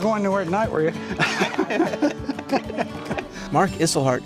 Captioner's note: laughing